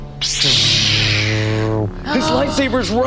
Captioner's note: imitates lightsaber